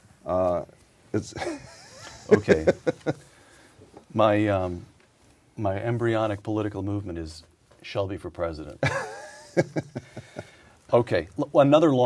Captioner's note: laughter